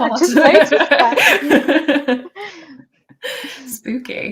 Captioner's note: laughter